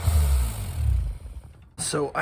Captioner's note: sped-up sander noise!